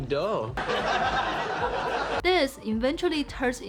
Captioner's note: crowd laughing